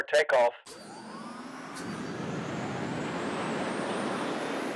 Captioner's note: rocket ship blasting